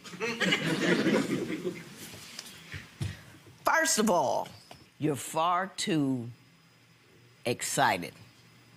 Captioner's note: audience laughing